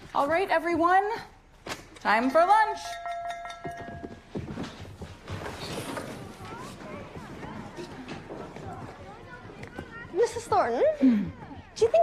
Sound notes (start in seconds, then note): 2.8 rings bell